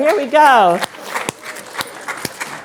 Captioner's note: applause